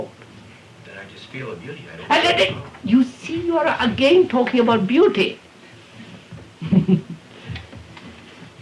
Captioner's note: laughs